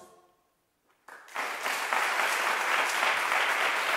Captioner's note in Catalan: Aplaudiments